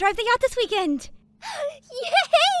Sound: KOKORO gasps

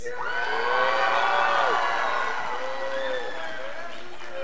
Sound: scholars applauding

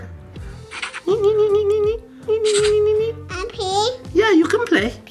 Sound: imitating color sound

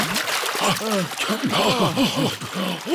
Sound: all puff and pant

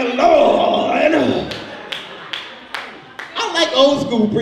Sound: audience member claps

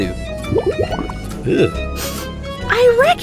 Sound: loud swamp bubble bursts; sniffs

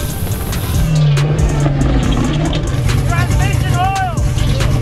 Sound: car engine roaring; upbeat music

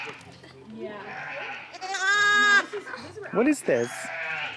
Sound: sheep scream

